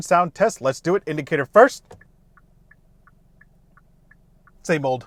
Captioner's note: low-volume flickering sound